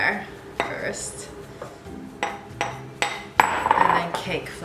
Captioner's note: bowl clanking